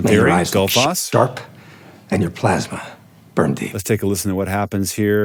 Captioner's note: movie dialogue plays